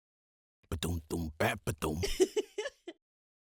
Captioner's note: happy giggle